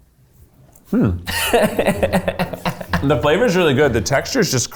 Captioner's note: laughs